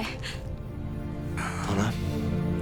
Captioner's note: dramatic inhale